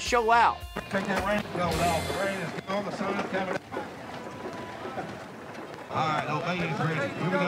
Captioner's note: hoof beats